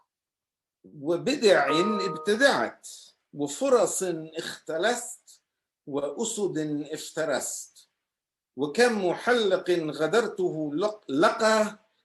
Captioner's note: Arabic